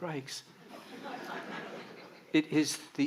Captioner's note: audience laughing